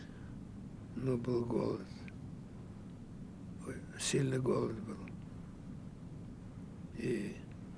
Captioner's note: sighing